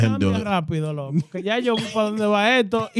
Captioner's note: speaking In Foreign Language